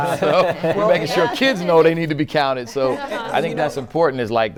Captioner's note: laughter